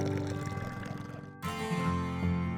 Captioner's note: water drizzling; engine sputtering